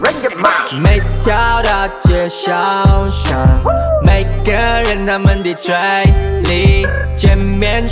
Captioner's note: brr